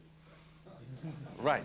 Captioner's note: laughter